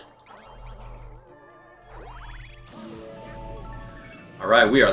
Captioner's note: gaming sounds; instrumental music